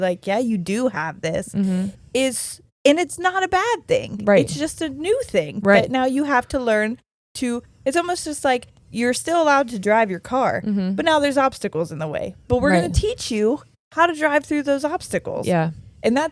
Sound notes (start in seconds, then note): none